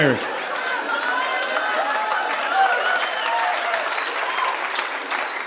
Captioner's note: audience laughing